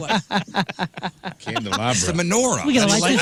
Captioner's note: laughing